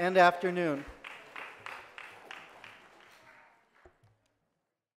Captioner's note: audience applauses